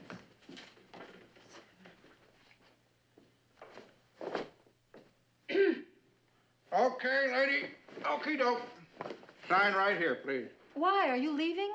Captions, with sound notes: [clearing throat] Okay, lady. Okey-doke. Sign right here, please. Why? Are you leaving?